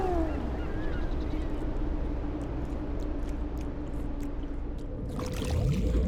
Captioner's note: whale call; wind blowing; bubbles gurgling